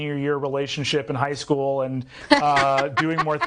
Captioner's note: laughing